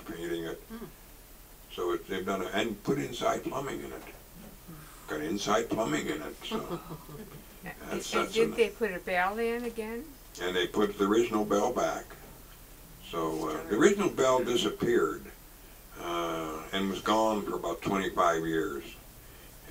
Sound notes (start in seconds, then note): 6.5 audience chuckles